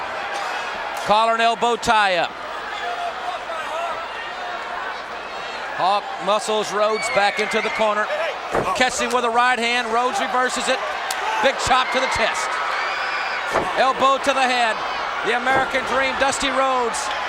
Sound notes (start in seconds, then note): 2.7 crowd shout